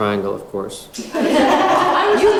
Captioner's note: laugh